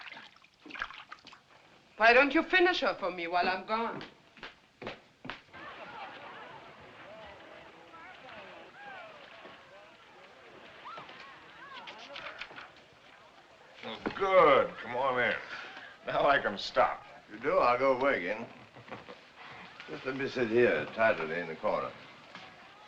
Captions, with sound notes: Why don't you finish her for me while I'm gone? [ Laughing, Chattering ] Oh, good. Come on in. Now I can stop. If you do, I'll go away again. [ Chuckles ] Just let me sit here tidily in the corner.